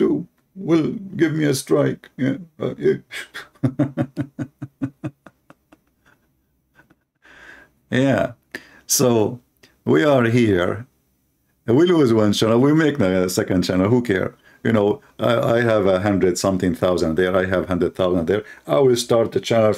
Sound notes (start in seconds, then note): 3.3 Ketawa